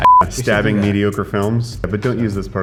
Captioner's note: loud beeping